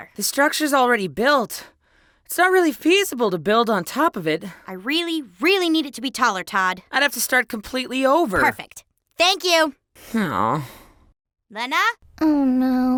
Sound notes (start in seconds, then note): 9.8 moans